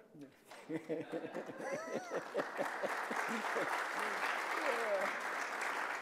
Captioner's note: both laughing; audience applauding